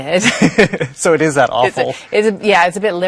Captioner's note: laughs